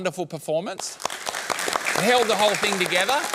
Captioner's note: applause